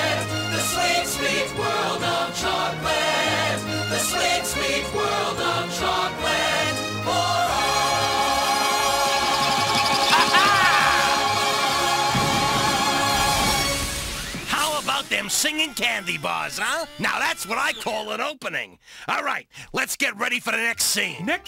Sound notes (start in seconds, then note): 10.0 Procter Laughs; 12.0 fireworks Booming